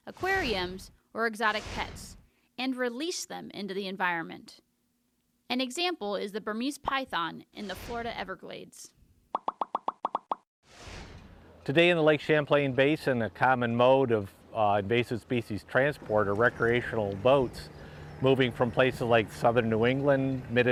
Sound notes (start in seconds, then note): 9.3 popping noise